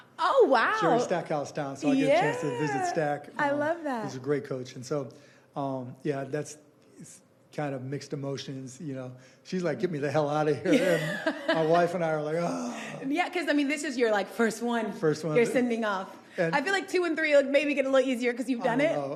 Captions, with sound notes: - Vanderbilt. - Oh, wow. - Jerry Stackhouse town. - Yeah. - So I get a chance to visit Stack. - I love that. - He's a great coach. And so, yeah, that's, it's kind of mixed emotions, you know. She's like, "Get me the hell outta here." - [Laughing] - My wife and I are like, [groaning]. - Yeah, cuz, I mean, this is your, like, first one - First one. - you're sending off. I feel like two and three will maybe get a little easier cuz you've done it?